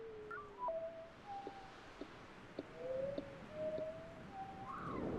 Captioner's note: birds whistling